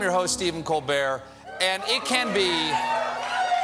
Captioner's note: applause